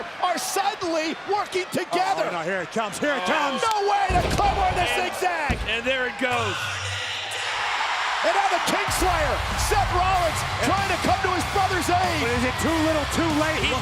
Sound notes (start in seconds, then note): 7.2 audience cheers; 7.2 pensive music